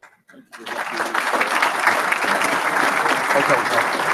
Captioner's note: audience applauds